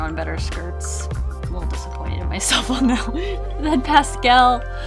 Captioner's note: laughs